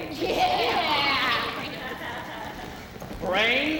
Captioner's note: women cheering